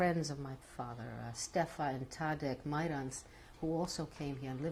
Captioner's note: non-english